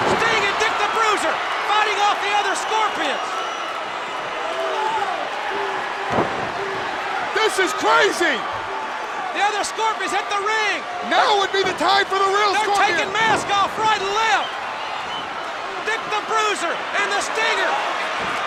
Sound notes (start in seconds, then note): 4.0 crowd cheering; 18.2 crowd cheering